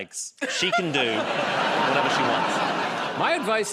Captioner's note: laughter